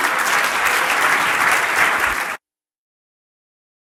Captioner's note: applause